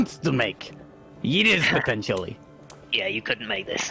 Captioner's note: Krel smug laugh